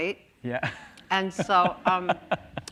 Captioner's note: laughs